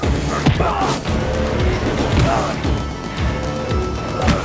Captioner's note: men grunting